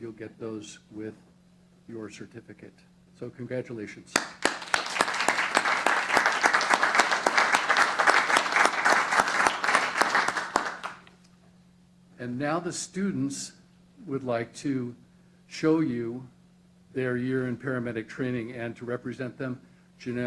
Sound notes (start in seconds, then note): 4.1 applause